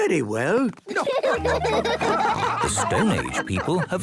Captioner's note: laughing